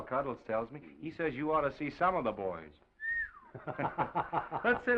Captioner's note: whistles; Oliver laughs